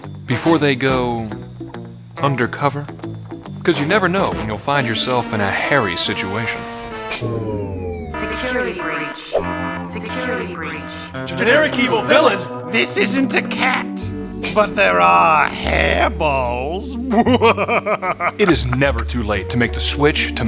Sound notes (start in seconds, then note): 7.1 alarm sounds; 9.3 electronic Voice; 17.0 villain laughs